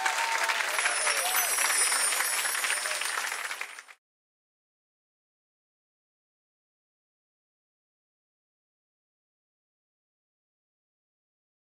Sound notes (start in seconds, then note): 0.5 bells chiming